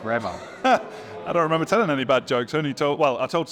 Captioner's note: laughs